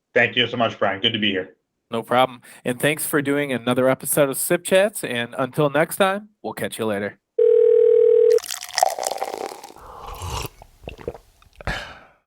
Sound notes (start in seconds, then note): 7.4 phone rings; 8.3 man gulps beverage; 8.3 beverage pouring in mug